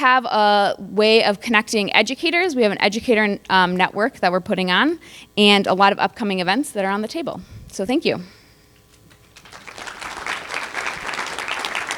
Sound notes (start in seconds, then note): 6.2 applause